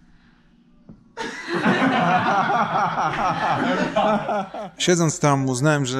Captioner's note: laughter